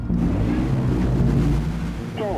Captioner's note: engine whirring